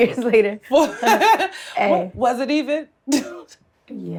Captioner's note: laughs